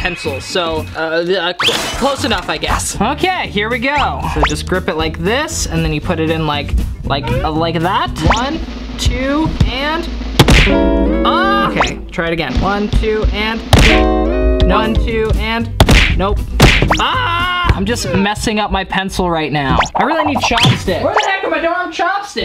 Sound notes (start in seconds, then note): 10.4 smacking noise; 10.7 somber music; 13.7 smacking noise; 13.8 somber music; 16.6 smacking noise; 16.8 screams; 22.2 smacking noise